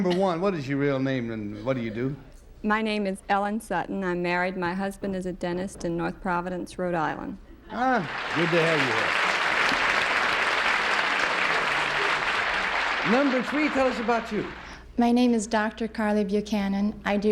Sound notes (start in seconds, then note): 11.0 applause